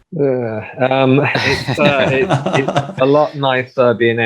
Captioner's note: all laughing